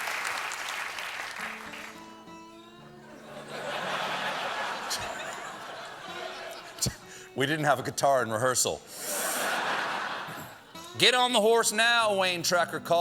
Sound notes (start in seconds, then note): 0.0 cheers and applause; 1.6 laughter